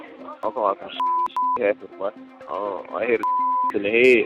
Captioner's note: beep; beep